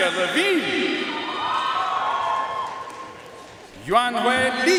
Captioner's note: audience cheering and applauding